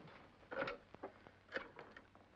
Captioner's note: phone lifts out of receiver; rotary phone dials